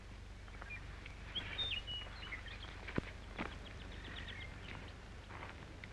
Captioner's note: birds chirping